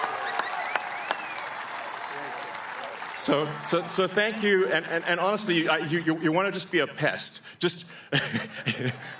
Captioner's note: cheering; applause